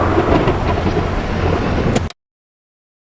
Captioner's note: click